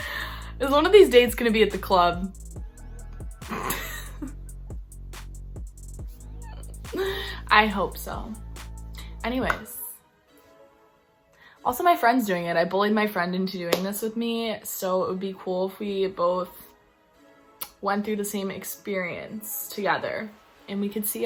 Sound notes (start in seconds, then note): 6.9 laughter